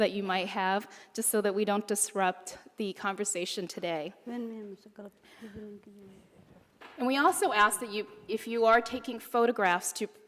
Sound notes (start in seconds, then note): none